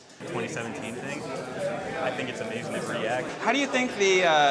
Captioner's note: people chattering